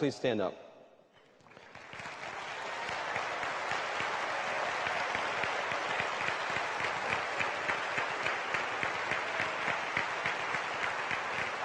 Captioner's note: applause